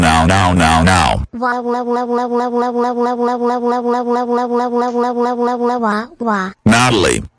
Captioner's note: crying on computer